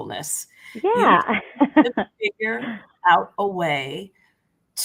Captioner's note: laughter